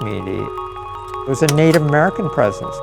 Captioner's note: clicking